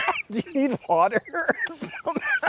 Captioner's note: both laughing; coughing